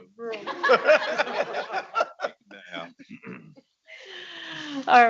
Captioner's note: audience laughing